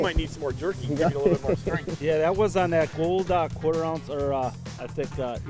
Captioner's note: laughing